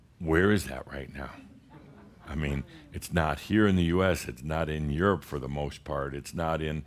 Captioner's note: A few chuckles